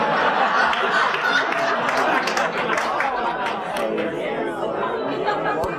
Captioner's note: audience laughs and claps